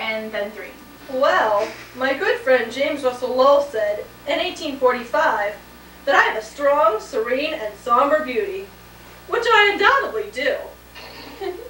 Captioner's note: others laugh